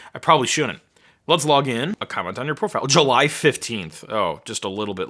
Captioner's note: none